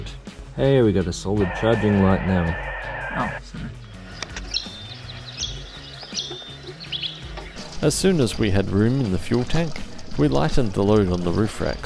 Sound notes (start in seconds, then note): 1.4 loud HF radio noises